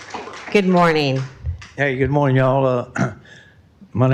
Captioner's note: applause